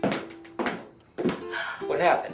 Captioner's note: sighing